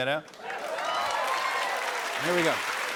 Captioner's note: cheering